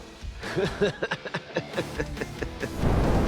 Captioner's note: laughing; flames whoosh